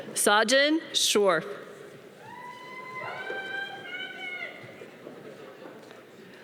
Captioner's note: audience cheering